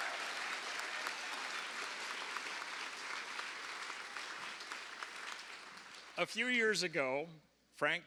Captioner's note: cheers and applause